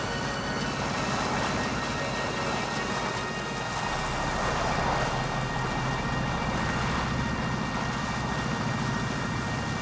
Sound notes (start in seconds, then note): 1.2 water splashing